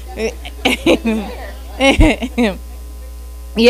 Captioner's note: audience member laughs